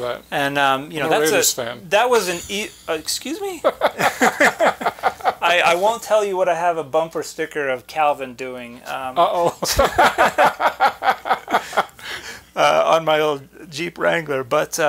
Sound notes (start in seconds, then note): 3.6 chuckling